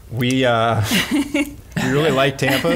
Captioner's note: laughs